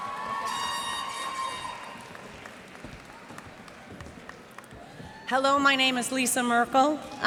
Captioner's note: cheers and applause